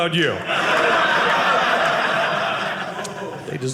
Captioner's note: audience laughing